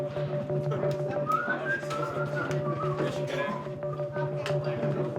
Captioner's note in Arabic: صفير فم